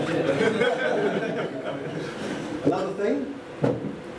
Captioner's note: laughter